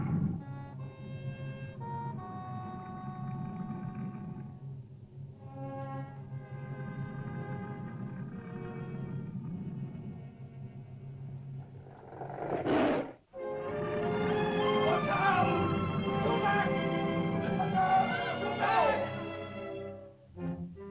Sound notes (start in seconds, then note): 0.0 lizard grumbles; 0.0 ominous music; 11.6 lizard snarls; 13.3 uplifting music; 14.8 shouting in caveman language; 20.3 dramatic whimsical music